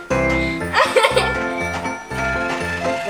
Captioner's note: giggles